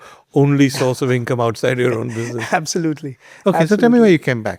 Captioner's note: chuckles